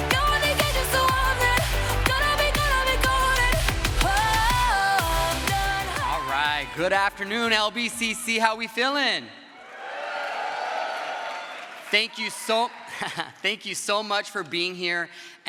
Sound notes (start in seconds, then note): 9.5 crowd cheers